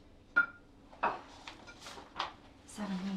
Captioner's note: opening ceramic jar